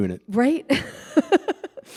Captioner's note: chuckle